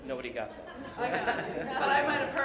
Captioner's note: laughter